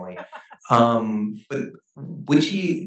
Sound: laughs

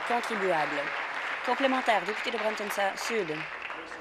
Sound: applause

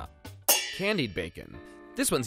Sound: pans clanging

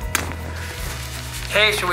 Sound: kissing noises

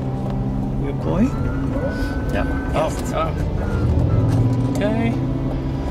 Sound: sirens

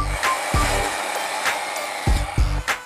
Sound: saw cutting

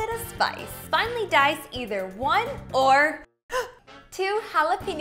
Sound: gasps

